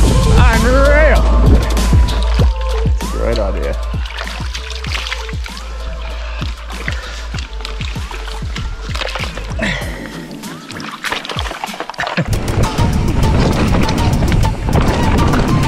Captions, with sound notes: unreal! (water burbles) Right out here. (bike clatters)